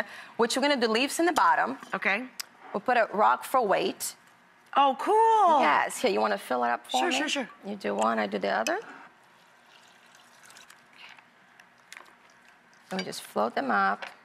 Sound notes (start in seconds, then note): none